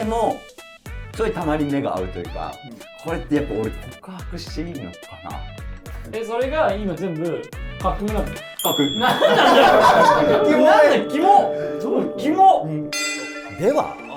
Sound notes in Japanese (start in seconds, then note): 9.0 一同：笑い